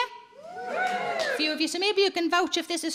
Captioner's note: audience cheering and clapping